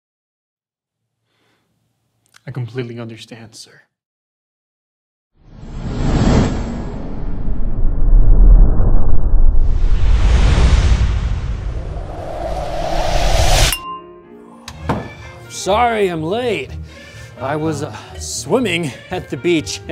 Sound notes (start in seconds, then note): 5.7 deep rumble; 13.8 jazz music